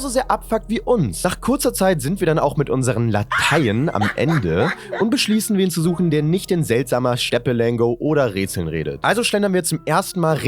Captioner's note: laugh clip